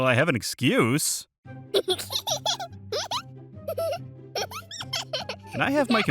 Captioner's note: adorable giggling